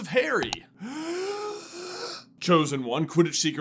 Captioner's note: deeeeeeeep inhale